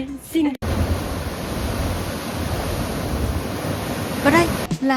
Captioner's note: sound of waves crashing